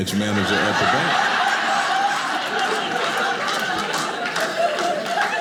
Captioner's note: audience laughing